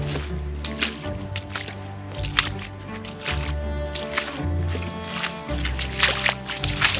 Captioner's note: dramatic instrumental music; water splashing